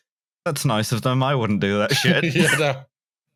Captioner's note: laughs